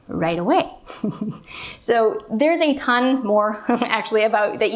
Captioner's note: chuckling; chuckles